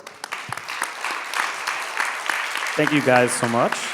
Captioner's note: people clapping